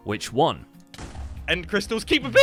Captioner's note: explosion